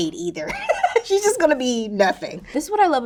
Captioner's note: Raven-Symone laughing